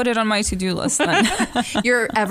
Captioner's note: laughter